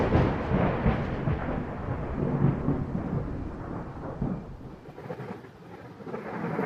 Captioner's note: thunder